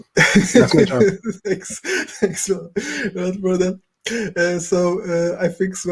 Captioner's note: laughs